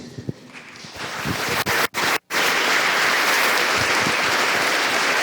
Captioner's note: audience applauds